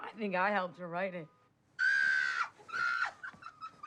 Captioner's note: screams